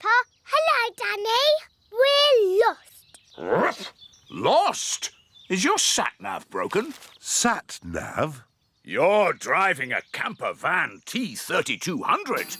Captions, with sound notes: Hello, Danny. We're lost! (BARKS) Lost? Is your Sat Nav broken? Sat Nav? You're driving a camper van T3200.